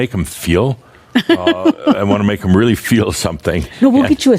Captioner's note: Adamus chuckles